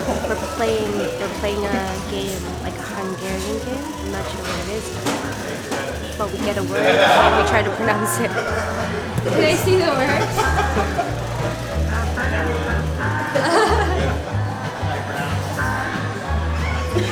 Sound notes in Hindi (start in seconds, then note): 14.0 हंसते हैं